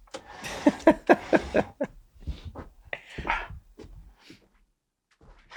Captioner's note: Charlie laughing softly